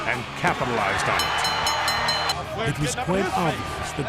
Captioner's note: bell ringing